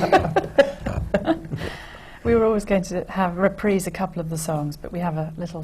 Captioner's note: laughter from the panel